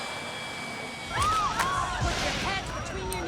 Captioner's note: screaming